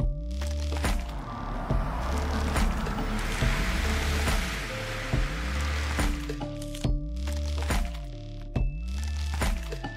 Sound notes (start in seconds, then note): 2.1 mysterious music continues; 4.3 air whooshing